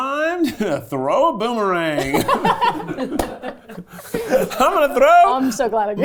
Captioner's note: everyone laughing